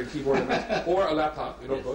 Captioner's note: laughs